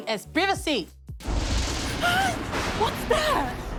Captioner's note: thunderous rumble, crash